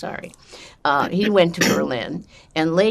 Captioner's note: clears throat